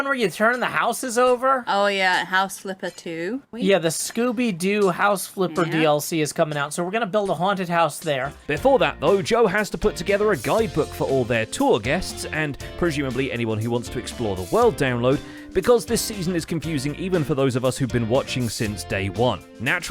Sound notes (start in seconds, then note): none